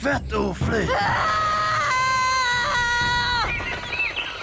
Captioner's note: echoing